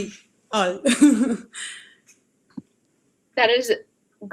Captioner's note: laughs